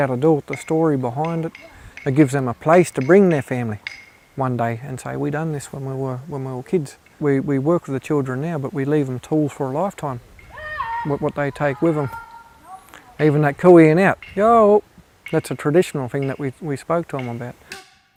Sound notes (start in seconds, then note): 13.1 shouts Ya-o